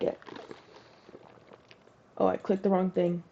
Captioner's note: ice rattling and drinking sounds